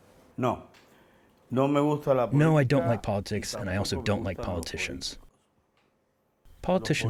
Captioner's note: through translator